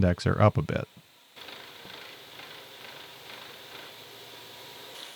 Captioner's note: machinery whirring